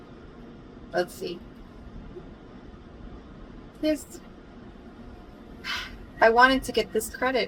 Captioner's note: sighs